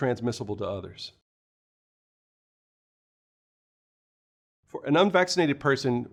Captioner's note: no audio